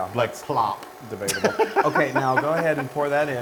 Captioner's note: laugh